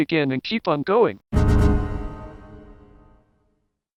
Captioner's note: Windows Longhorn Error